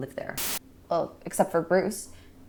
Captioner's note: camera buzzing